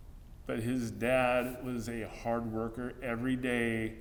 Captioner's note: none